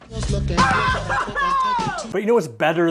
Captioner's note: cheering